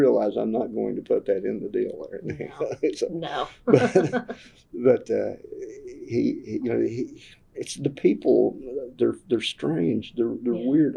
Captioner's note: laughter